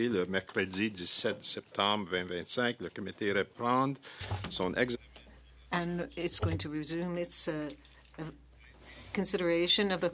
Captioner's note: speaking French